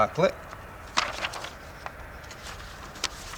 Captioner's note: paper rustles